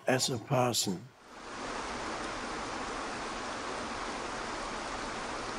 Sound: waterfall burbles

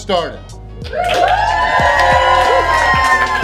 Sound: cheering; soft music

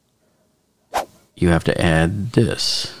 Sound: air whooshing

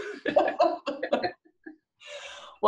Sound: laughter

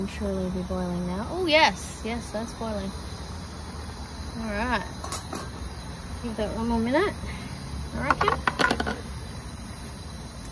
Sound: clunks

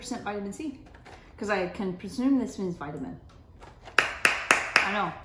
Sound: clapping hands

